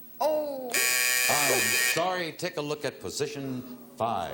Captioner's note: buzzer